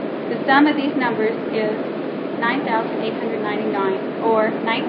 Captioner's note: none